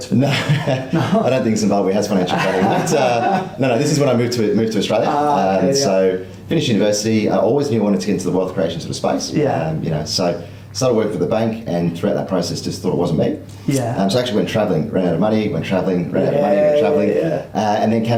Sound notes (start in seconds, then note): 2.1 laughs